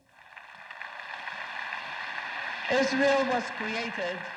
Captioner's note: audience applauds